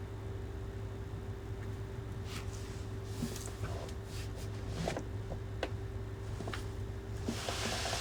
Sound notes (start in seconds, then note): 4.5 counter creaks